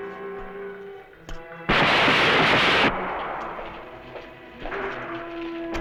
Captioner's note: gunfire